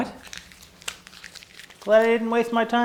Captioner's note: crumpling of paper